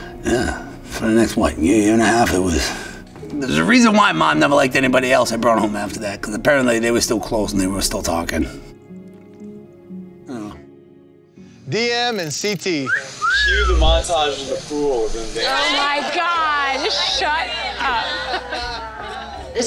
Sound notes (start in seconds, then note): 12.8 cast whistling; 15.6 group laughing